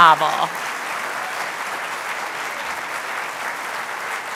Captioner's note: applause